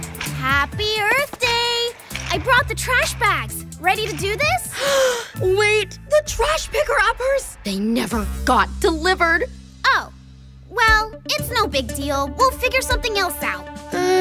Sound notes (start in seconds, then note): 0.0 upbeat music; 4.6 gasps